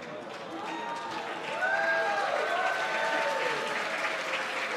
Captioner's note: cheers and applause